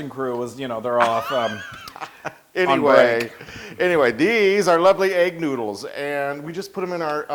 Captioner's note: laugh